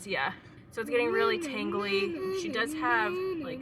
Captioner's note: vocal stimming